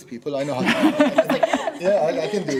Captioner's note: laughing